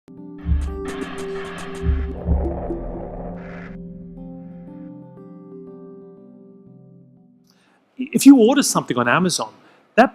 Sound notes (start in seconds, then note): 0.1 gentle music; 0.7 graphics whooshing